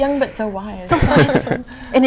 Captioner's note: background chuckles